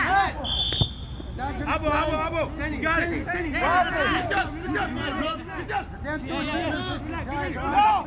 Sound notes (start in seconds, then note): 0.4 whistle; 1.0 field chatter